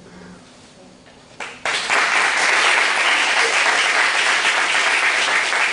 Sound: applause

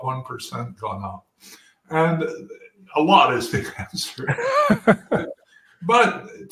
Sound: laugh

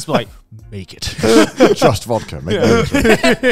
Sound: all laughing

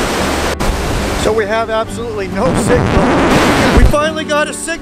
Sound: sound of a record being scratched

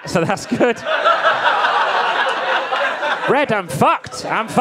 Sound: audience laughing

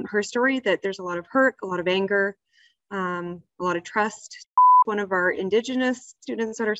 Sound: beep

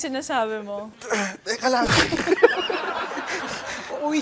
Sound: grunts; laughter

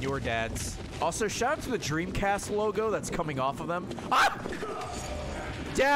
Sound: screams

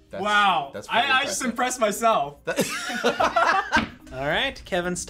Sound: laughs

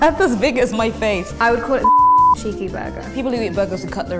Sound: beeping

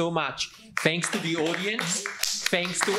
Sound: audience applauds

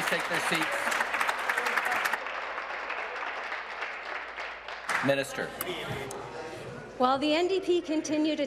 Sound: applause

